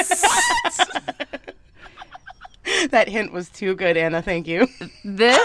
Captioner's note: laughter